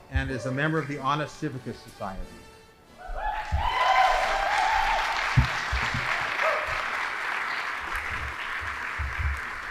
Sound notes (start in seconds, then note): 3.2 audience applauding